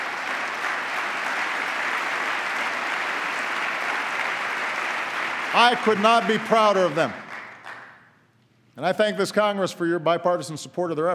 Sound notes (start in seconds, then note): 2.3 applause